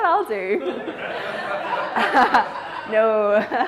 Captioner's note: all laugh